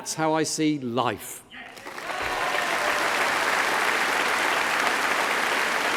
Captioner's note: applause